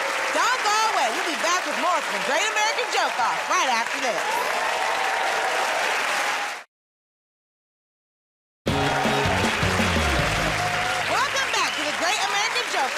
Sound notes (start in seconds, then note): 5.9 cheers and applause; 8.6 cheers and applause